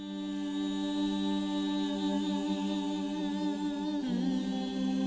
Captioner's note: singer solemnly humming